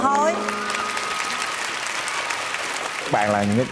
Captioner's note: clapping and cheering